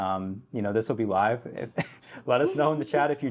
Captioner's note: chuckles